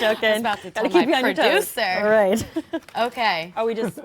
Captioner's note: laughter